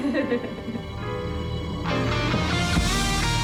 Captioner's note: laughs; interviewer laughing; triumphant music